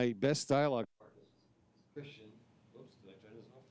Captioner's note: speaking faintly